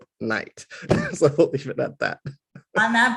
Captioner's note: laugh